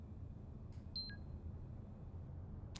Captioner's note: computer beep